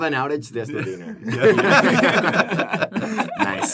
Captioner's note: laughter